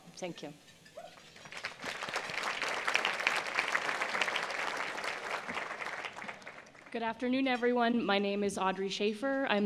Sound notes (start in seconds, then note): 1.4 applause